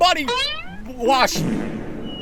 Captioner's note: fartwithreverb.mp3